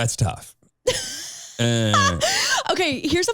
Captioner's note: laughing